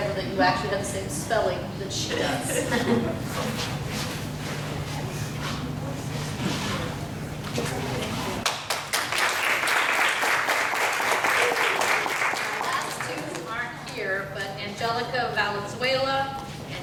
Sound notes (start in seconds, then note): 8.4 applause